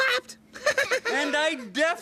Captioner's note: Little Cats laughing